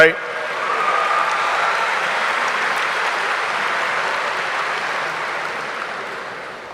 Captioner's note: audience cheering; audience applauding